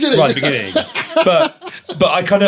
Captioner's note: laughing